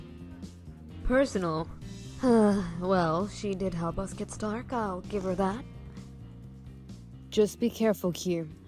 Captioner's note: sighs